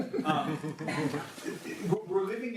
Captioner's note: audience laughs